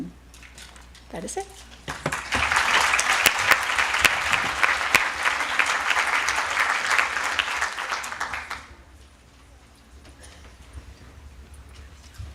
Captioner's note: applause